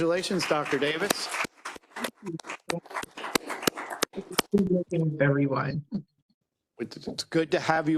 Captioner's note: applause